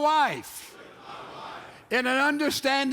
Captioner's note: men repeat